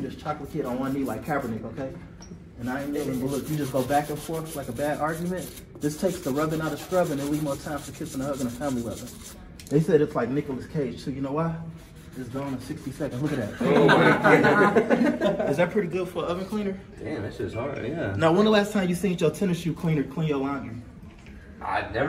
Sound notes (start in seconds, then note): 2.6 scrubbing; 13.7 laughing